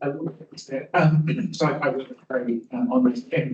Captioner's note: attendee clearing throat